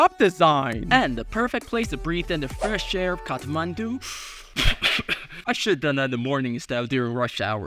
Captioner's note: cough